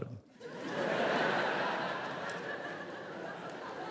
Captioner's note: audience laughs